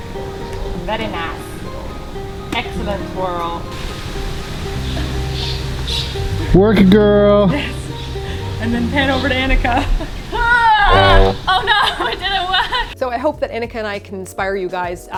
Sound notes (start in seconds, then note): 4.4 sexy music; 10.9 boop!